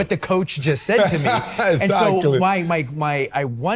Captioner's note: laughs